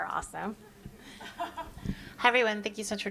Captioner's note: laughs